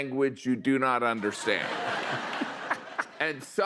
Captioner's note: laughter